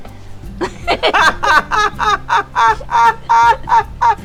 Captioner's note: both laughing